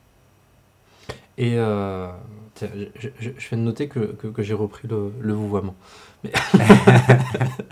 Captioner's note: laughs